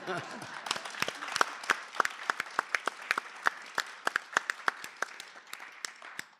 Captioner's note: laugher & applause